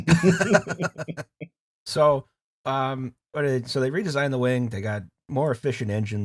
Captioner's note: laughter